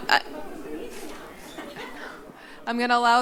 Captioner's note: background chatter